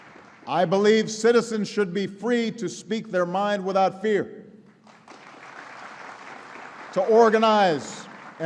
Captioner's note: applause; applause